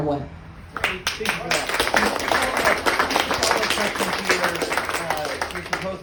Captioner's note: applause